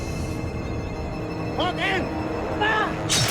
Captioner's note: shouting in Maya